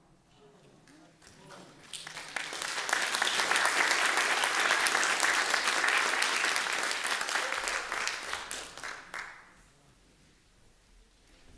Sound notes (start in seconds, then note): 1.1 applause